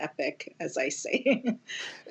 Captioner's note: laughter